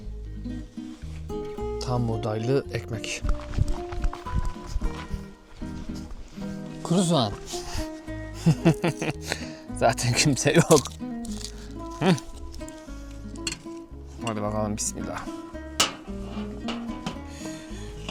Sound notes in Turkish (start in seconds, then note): 8.3 kahkaha